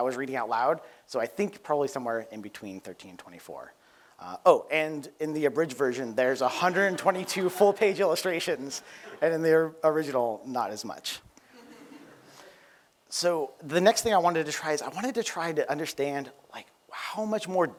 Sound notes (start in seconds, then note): 11.5 laughter